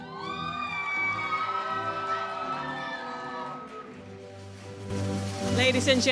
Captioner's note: audience cheers and applauds